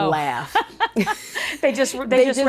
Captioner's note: both laughing